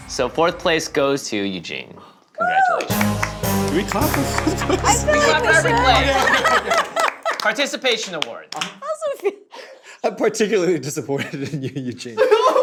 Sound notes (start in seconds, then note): 2.7 clapping; 3.0 dramatic music intensifies; 4.2 indistinct conversation; 11.1 laughter